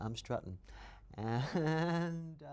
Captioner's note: laughs